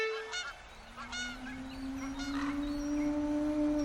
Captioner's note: seagulls; jungle animal mating call